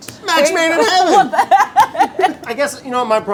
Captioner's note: laughs